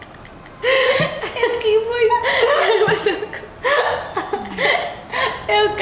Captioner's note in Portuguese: risos